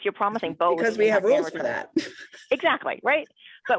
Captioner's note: laughs